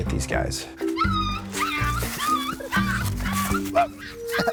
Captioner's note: puppy whining